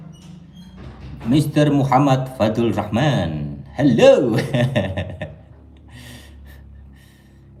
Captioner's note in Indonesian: tertawa